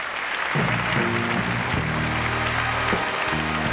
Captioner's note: applause